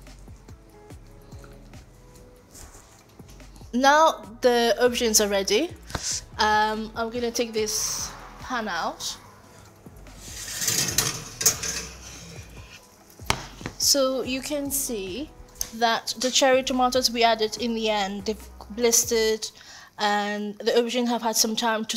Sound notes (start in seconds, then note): 0.1 bright music continues; 10.5 shelf rattles